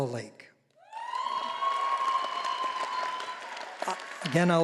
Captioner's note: all applauding